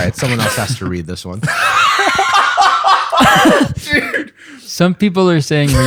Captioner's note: laughter